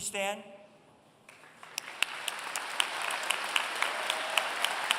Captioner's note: applause